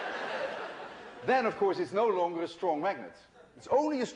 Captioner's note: laughter